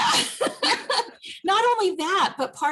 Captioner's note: both laugh